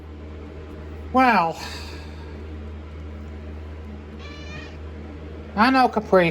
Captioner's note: Caprice meows